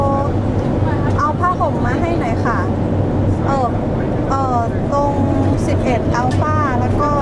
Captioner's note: foreign language